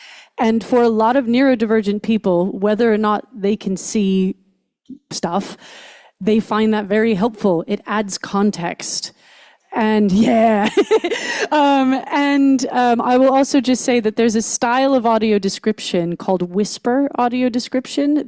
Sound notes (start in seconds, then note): 10.1 laughs